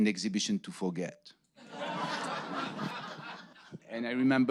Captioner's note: audience laughing